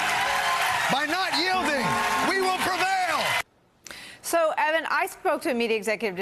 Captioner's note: cheers and applause